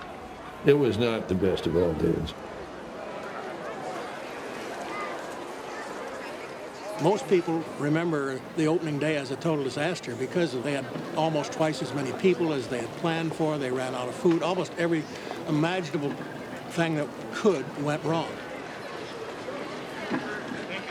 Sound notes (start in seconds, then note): 3.7 people chattering